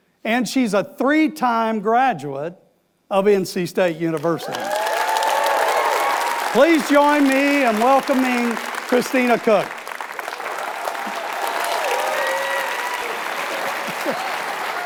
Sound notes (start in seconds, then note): 4.4 audience applauds; 9.9 audience cheers and applauds